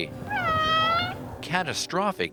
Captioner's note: cat meows